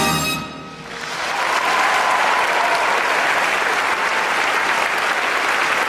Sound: applause and cheers

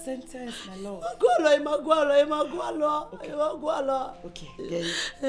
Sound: crying

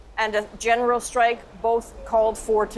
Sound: speaking foreign language

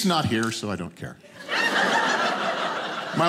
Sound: audience laughing

